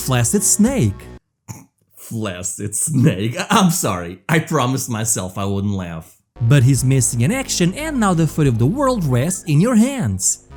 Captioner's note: snickers